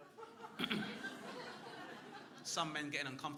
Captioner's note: clears throat